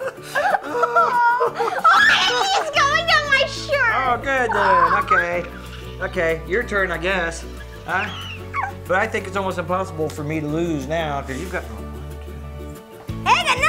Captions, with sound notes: (upbeat music) (squeals) It's going down my shirt! - Oh good then, okay. Okay, your turn I guess, huh? But I think it's almost impossible for me to lose now, 'cause you've got, one, two, three.